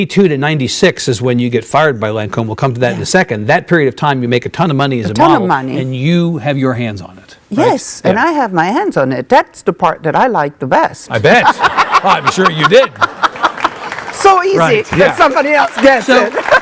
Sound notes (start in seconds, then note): 11.1 laughing; 12.0 audience clapping